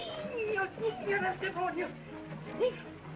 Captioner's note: yelling in Spanish continues